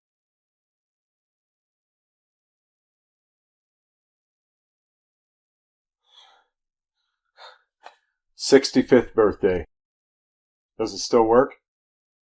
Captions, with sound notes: [silence continues] [breathes out] 65th birthday. Does it still work?